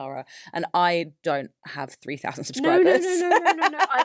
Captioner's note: laughs